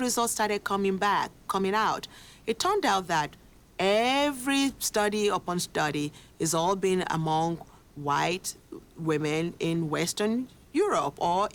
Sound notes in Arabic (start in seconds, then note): none